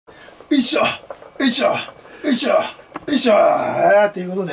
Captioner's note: energetic sounds of exercise